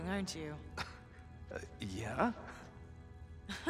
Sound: laugh

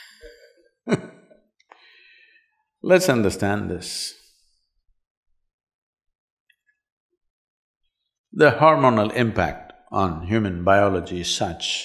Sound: laughs

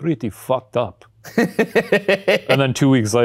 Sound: laughing

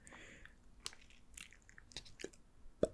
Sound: nervous breathing

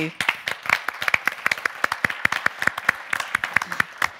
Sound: audience clapping

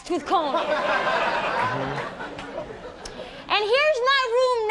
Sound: audience laughs

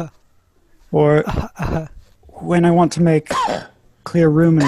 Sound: coughing

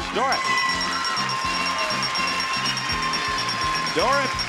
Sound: audience cheering

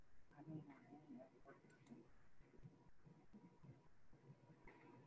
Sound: student speaking faintly

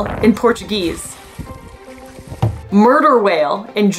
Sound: background music; quiet water splashing noise

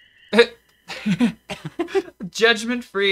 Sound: laughing

